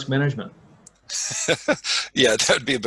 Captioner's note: laughing